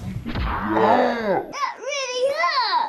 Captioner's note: punch thuds